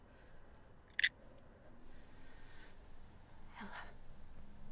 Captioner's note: craft knife clicking